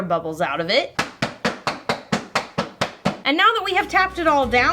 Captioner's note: tapping